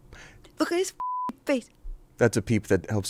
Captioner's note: beep